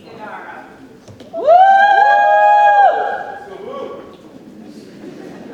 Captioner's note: audience cheers; audience laughs